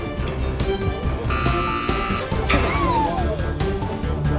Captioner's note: buzzer sounding; tense music